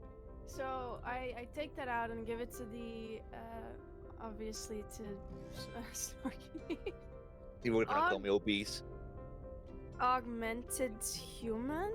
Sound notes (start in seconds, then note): 6.5 laughs